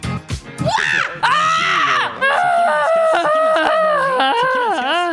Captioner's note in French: cris divers et toadesques